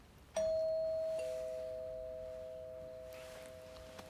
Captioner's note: doorbell rings